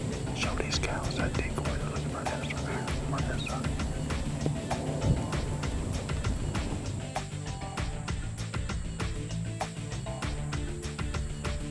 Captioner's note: whispering